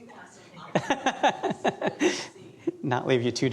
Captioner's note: laughter